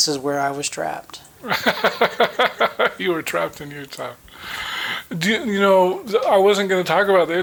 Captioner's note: chuckling